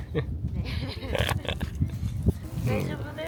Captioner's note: laughs